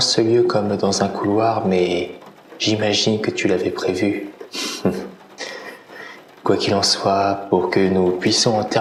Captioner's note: laugh